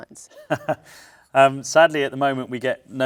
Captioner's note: chuckles